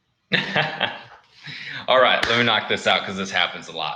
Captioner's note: laughs